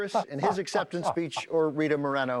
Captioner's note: laughing